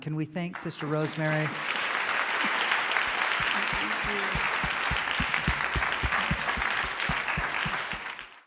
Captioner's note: applause